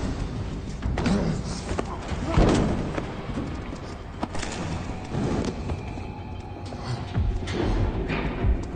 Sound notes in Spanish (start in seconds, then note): 2.9 Golpes